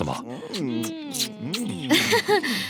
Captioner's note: kissing continues